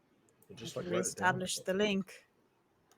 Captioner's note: murmurs